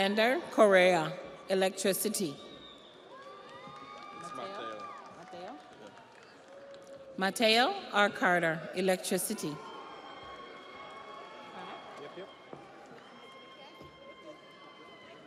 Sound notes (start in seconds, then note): 6.9 audience applauds; 6.9 audience cheers